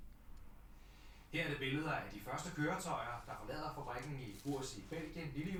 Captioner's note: news reporter continues in Danish